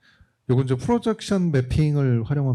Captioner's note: speaking korean